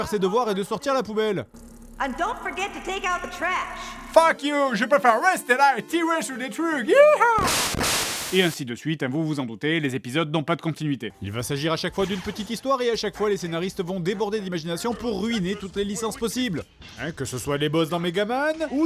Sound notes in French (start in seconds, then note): 3.8 accent anglais; 6.9 cri